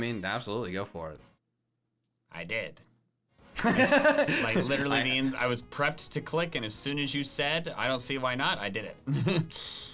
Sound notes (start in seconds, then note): 3.6 laughs